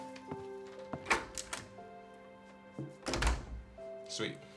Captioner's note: door clattering